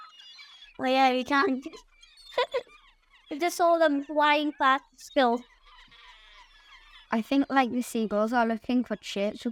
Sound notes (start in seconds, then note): 2.3 laughs